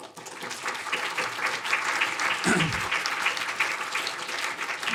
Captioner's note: audience applauding